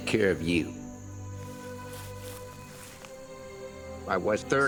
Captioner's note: insects chirping; soft music